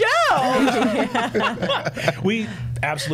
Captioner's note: all laughing